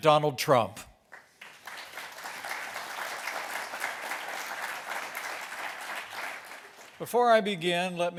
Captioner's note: applause